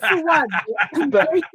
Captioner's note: laughing